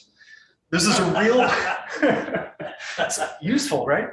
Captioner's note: audience member laughing